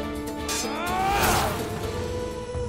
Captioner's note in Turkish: Kılıç sesi